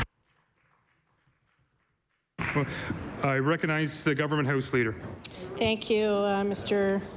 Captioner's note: applause